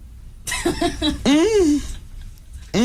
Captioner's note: laughter